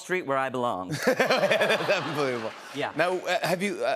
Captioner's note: laughter